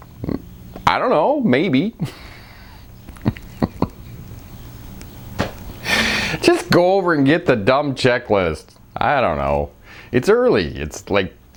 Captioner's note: laughing